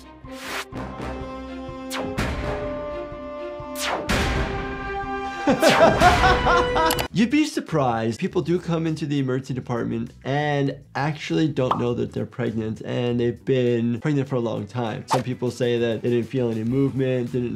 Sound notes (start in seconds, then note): 0.0 dramatic music; 5.4 laughing